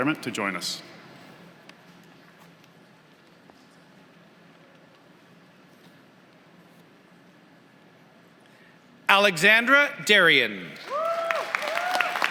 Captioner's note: applause